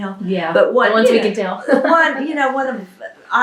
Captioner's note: laughs